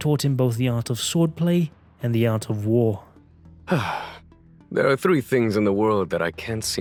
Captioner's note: sigh